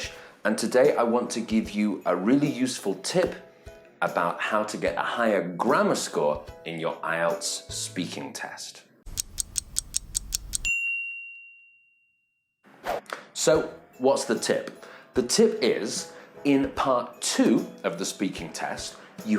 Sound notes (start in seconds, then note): 9.1 clock ticking; 10.5 bell dings